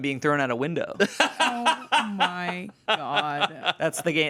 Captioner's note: laughs